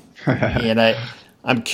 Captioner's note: laughing